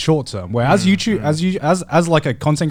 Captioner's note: affirmative murmuring